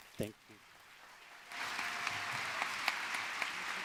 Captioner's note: applause